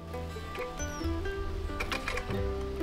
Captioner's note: latch clicks